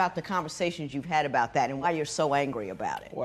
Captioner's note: none